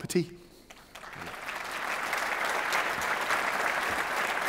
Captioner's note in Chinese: 鼓掌